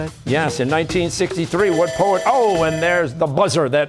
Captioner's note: bell ringing